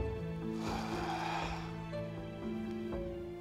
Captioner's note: sigh